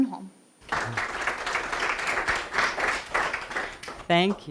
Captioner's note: audience applauds